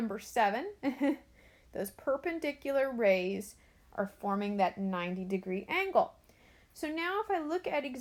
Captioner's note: chuckles